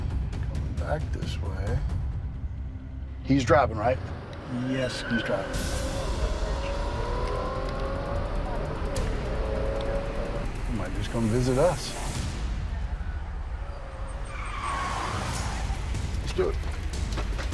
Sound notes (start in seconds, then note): 5.5 tires screech; 6.4 car accelerates; 14.3 tires screech